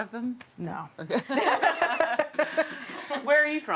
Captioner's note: both laughing